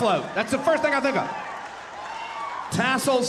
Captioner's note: audience cheering